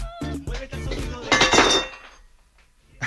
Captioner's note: a plate falls